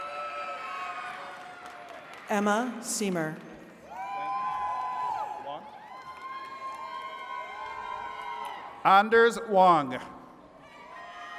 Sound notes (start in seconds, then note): 0.0 attendees cheering; 3.8 attendees cheering